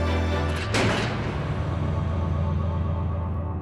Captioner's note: jail cell door closes